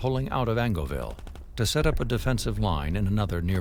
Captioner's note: gunshots firing